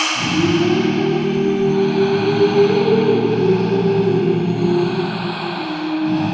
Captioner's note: artists vocalizing; person inhaling and exhaling